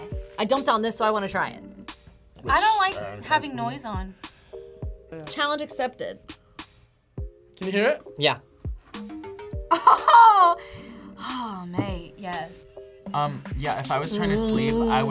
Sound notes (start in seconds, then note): 9.7 laughs